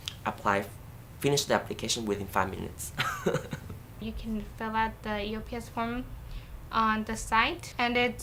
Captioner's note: laughs